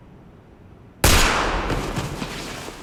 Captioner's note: gunshot